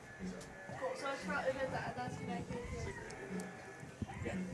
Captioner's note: indistinct chatter